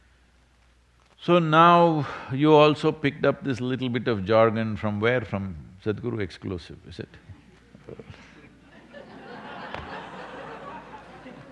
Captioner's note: laughter